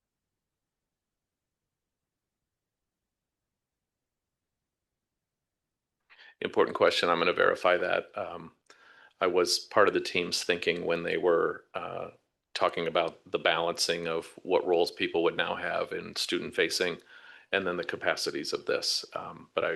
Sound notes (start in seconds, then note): 2.4 audio cuts out